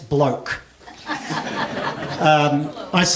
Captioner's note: laughter